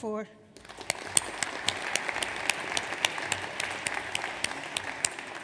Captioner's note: audience applauds